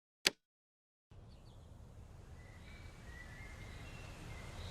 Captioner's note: birds chirping